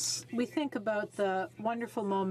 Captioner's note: speaking French